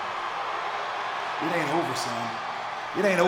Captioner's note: crowd cheering